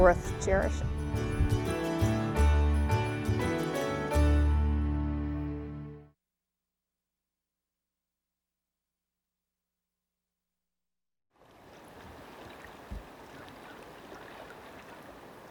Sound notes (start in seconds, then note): 1.8 peaceful music continues; 11.4 water trickles